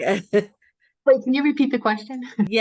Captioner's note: laughs